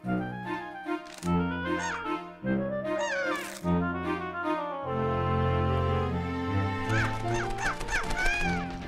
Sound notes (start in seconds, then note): 1.3 squawking